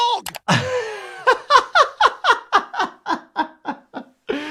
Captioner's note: doctor laughing